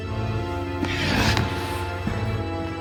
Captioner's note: Beylan snarls